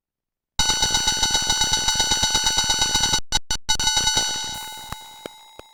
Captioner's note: vintage phone ringing